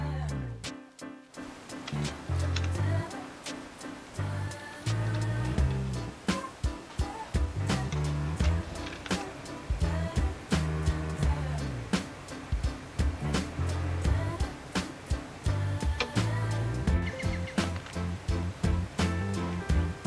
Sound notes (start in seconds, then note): 6.0 sound of Diesel Engine Starting; 12.4 engine Revving Sound; 16.9 Birds Tweeting - not on twitter actual bird song!